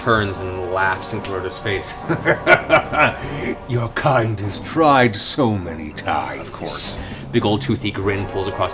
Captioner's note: laughs